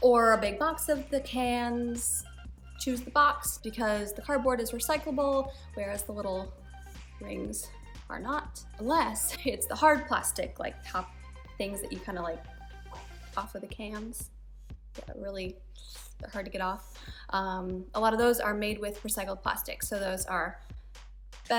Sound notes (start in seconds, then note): 13.2 makes pop sound